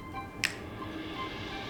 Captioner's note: snaps